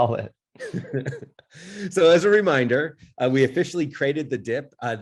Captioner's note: laughs